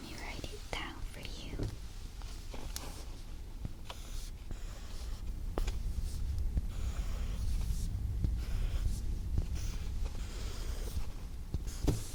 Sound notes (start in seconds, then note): 4.9 writing sound